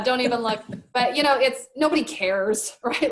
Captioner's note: laughs